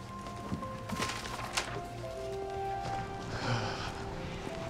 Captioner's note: light music; paper rustling; Nicolas sighs